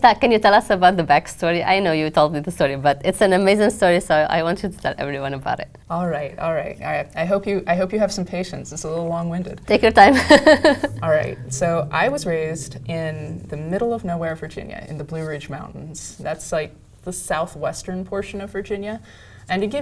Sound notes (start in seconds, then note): 9.6 laugh